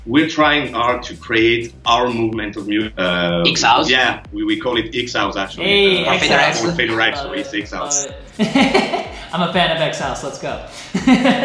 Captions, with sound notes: We're trying hard to create our movement together - Exhouse - Yeah we call it Exhouse actually. - Aye. That's nice. - You're goin to take right to our Exhouse. (laughing) - I'm a fan of Exhouse, let's go.